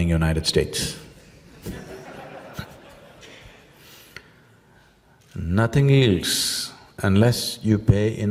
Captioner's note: laughter